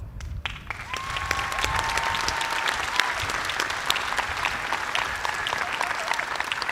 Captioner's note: cheers and applause